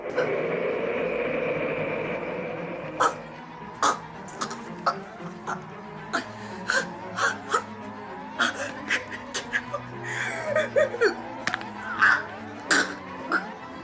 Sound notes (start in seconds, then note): 0.1 menacing music; 2.9 Lenore chokes and gasps; 6.6 Lenore loudly breathing; 10.4 Lenore trembles and groans; 12.6 Lenore chokes and gasps